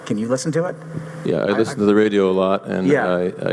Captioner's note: voiceover